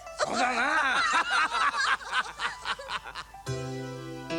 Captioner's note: laughter